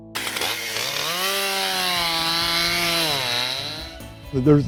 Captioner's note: chain saw buzzing